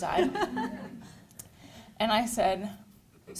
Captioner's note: chuckles